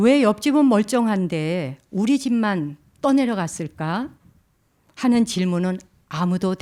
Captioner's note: speaking in Korean